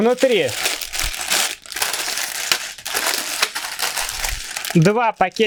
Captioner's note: parts rustling